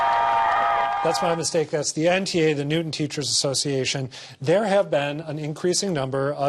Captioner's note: applause